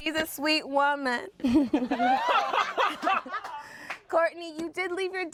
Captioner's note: everyone laughs